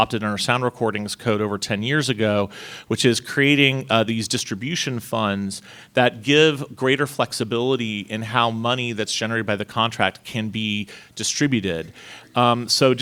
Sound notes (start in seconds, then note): none